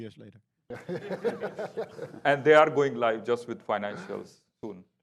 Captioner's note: laughing